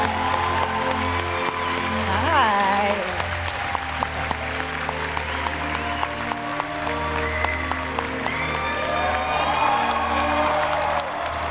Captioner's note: cheers and applause